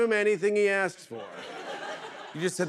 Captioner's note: laughter